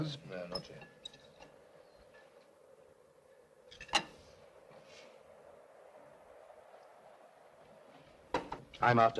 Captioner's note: wind blows